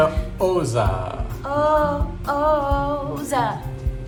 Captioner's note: singsong